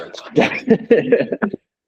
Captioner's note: laughter